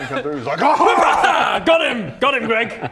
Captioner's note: wrrPOW!